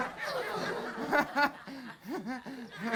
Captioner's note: laughter